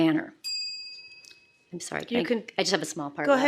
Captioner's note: ding